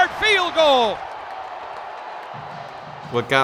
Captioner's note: spectators and players cheering